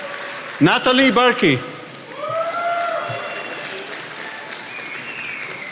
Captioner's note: attendees applauding